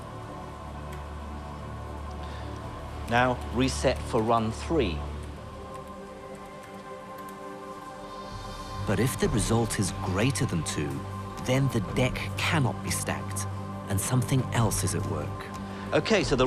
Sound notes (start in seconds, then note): 9.1 voiceover